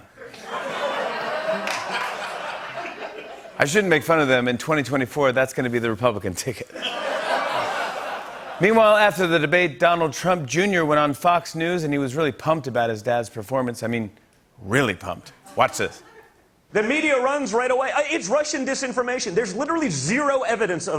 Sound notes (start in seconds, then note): 0.2 laughter; 6.7 laughter